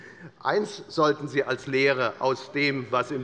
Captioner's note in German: none